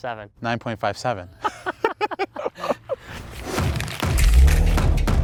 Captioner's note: both laughing; upbeat music